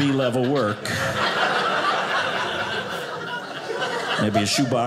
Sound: audience laughing

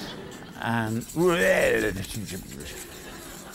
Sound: silly noises

